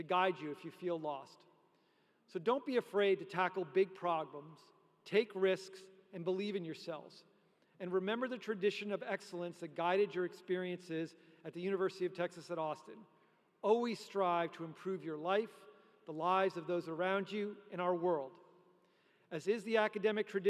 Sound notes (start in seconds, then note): none